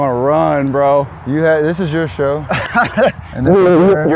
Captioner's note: laughs